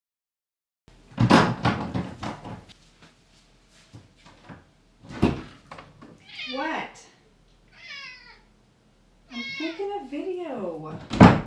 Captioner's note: meow!